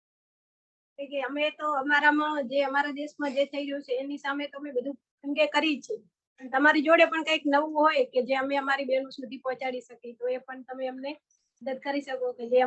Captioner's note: non-english speech